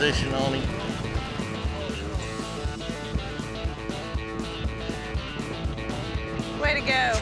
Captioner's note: hoofbeats